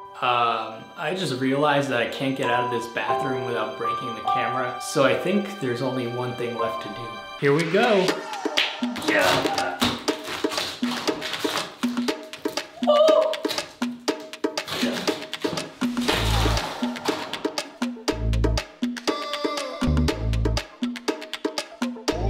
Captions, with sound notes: I just realized that I can't get out of this bathroom without breaking my camera so I think there's only one thing left to do. Here we go. (upbeat music) (gasping)